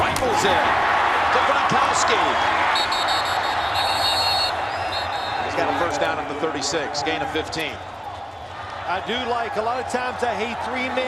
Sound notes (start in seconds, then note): 2.7 whistle blows